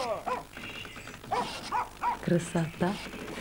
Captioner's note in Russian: лай собаки